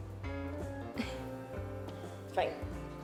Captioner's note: Holly chuckles